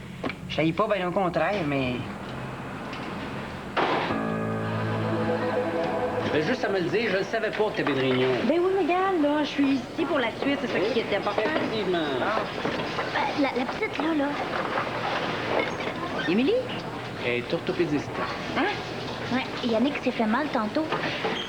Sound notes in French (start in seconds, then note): 3.0 Une porte se ferme